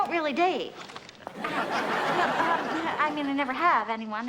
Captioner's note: audience laughs